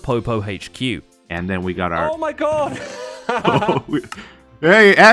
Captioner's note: laughs